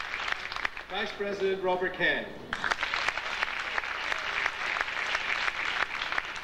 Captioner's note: audience applauding